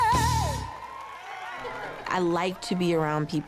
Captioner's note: cheers and applause